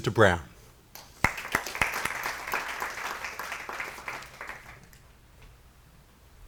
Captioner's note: applause